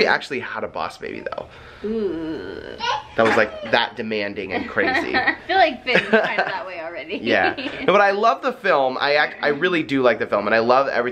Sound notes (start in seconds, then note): 5.9 laughs